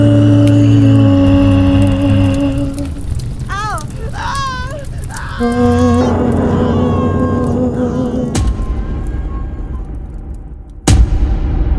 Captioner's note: ow! OW! * screaming